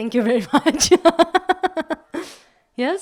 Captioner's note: laugh